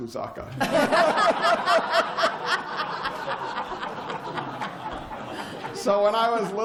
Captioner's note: laughter